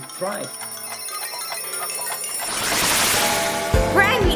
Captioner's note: rewinding sounds; bell clanging